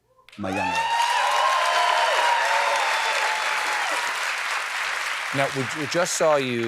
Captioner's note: applause